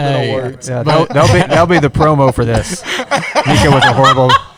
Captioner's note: laughter